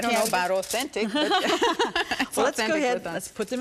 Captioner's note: laugh